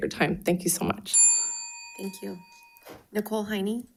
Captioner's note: bell dinging